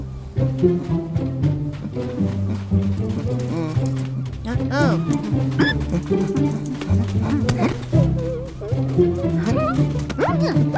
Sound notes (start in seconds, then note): 0.2 sound of footsteps